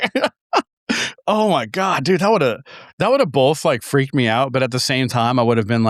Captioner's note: both laughing